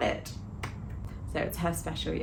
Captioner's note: hands clapping